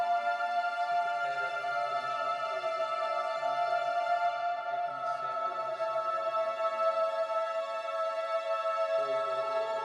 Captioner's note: chanting